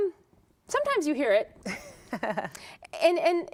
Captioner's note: laughter